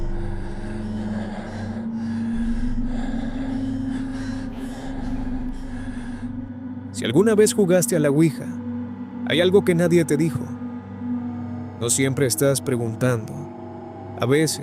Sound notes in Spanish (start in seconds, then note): 5.6 jadeo; 5.6 suspiro